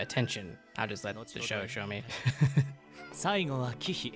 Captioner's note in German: lacht